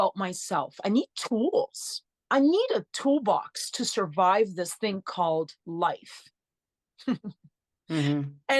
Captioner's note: chuckles